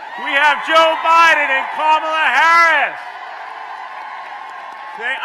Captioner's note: applause